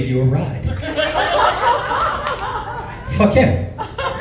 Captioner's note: chuckles